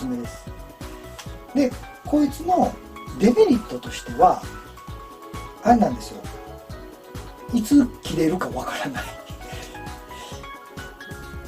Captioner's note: laughs